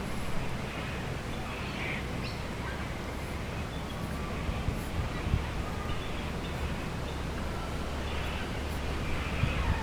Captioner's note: crimson rosella softly in background